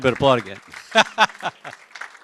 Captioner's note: applause; laughter